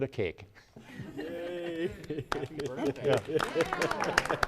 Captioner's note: applause